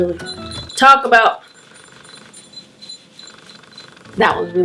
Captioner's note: jingles bells